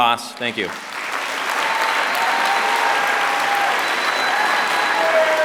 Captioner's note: applause